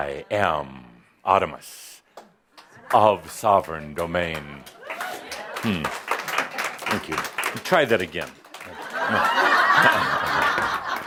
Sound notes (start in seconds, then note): 4.2 only some applause; 8.6 laughter